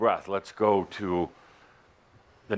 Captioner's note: none